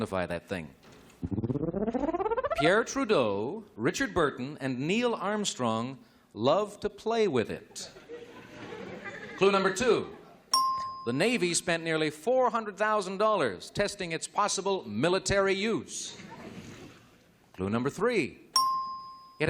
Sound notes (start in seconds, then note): 10.0 chuckling; 12.2 ding